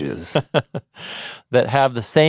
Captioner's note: laughs